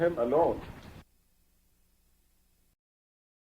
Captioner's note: static; buzzing